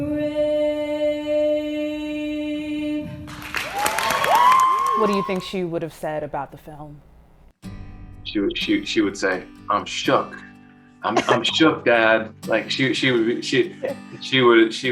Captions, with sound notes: (students clapping and cheering) What do you think she would've said about the film? (guitar strums) She would say, "I'm shook! I'm shook, dad!" Like, she would...